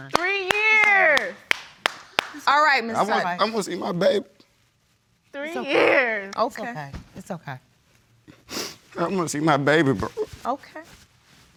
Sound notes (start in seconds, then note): 5.5 sobbing; 8.4 sniffles